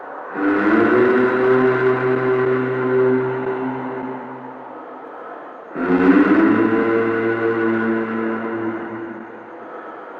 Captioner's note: humming sound